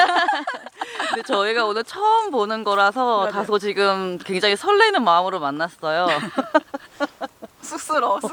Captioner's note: keep laughing / Nervous